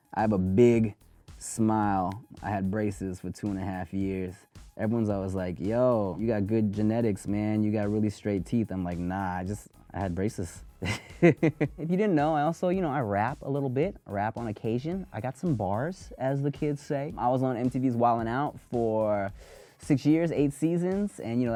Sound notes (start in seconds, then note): 10.8 laughs